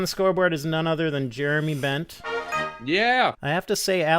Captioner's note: chime plays